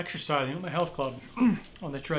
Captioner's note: clears throat